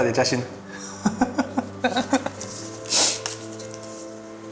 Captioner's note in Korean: 웃음